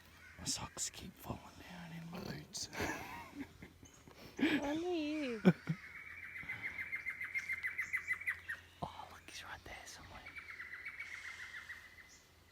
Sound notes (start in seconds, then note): 4.3 laughs; 6.5 continues laughing